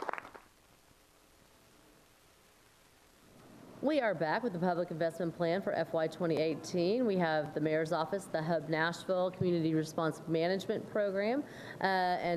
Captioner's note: applause